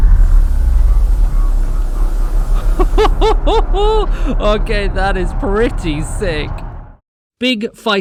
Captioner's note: amazing rumbling and ramping up of sounds